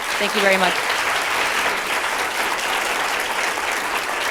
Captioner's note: applause